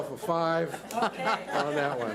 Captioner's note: laughs